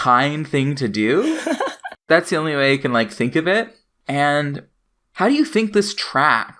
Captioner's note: laughs